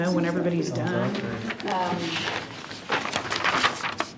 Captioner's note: papers rustle